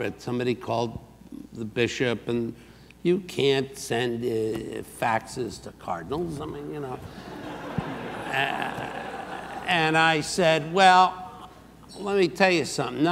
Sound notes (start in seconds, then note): 7.1 audience laughs